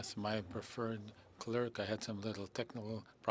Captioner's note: speaking French